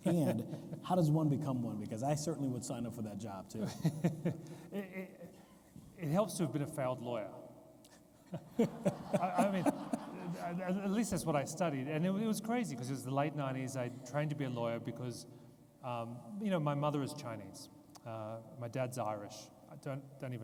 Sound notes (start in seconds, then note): 3.6 interviewee chuckles; 8.3 interviewer chuckles; 8.4 audience laughs